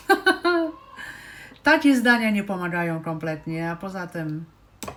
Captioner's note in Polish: śmiech